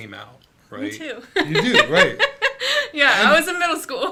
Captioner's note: laughs